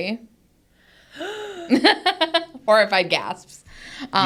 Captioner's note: laughs